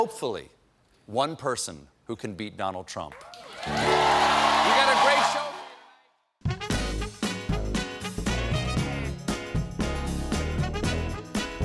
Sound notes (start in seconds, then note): 3.2 cheers and applause